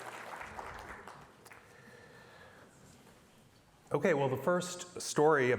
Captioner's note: applause